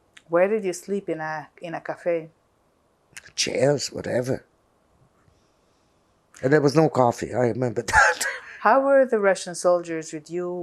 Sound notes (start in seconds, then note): 7.6 laughing